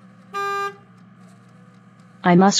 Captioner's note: car honk